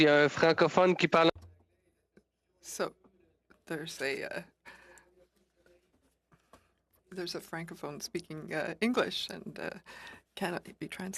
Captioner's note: speaking French